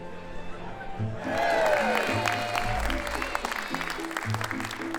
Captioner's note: cheers and applause